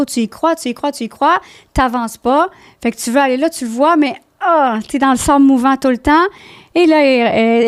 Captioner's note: in french